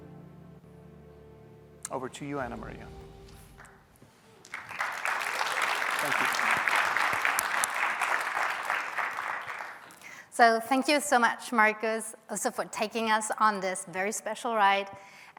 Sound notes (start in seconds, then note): 4.3 applause